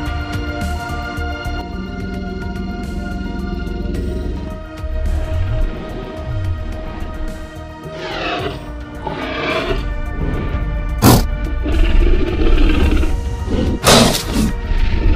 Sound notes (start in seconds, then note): 1.0 low Growling Sounds; 7.1 T-Rex Snorts and Stomps